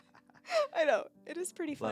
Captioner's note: laughing